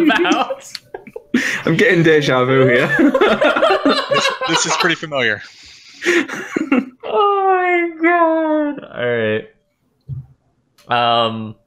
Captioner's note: laughter